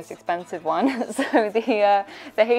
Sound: laughing

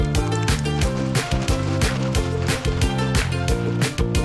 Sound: bag shaking

